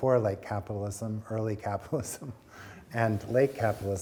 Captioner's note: chuckling